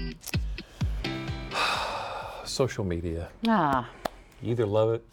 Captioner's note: sighing